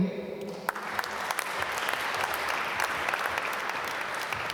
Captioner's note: applause